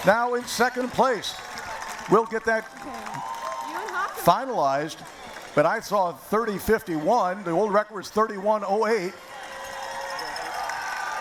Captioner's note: cheering